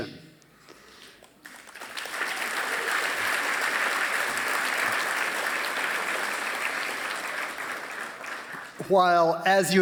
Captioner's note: applause